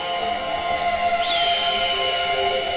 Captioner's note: bird screech